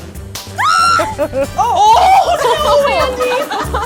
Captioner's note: screams; laughing; upbeat music